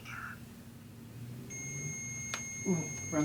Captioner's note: REM Pod ringing